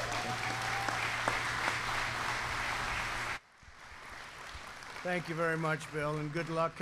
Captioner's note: applause